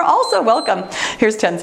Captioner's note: timer beeps